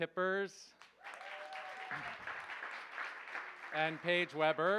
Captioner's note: cheers, applause